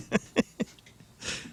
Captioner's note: laughing